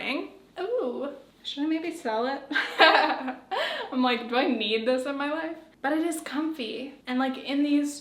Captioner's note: giggles